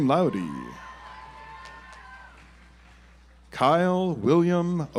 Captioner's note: audience applauds